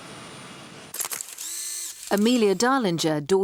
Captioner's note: camera shutter clicking